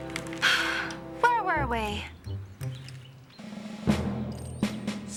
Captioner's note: sighs